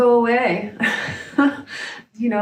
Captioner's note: laughs